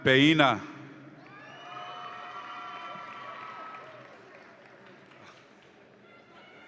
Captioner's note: audience applauds and cheers